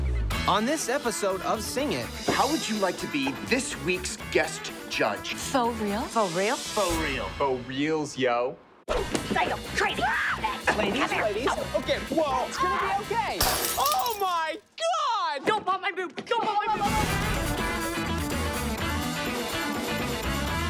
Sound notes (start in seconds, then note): 9.7 yelling, fighting; 13.4 glass breaks